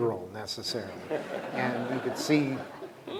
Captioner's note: laughter